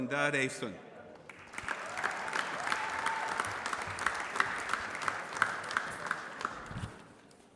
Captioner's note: applause